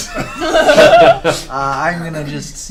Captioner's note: all laugh